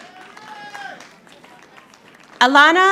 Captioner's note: audience applauding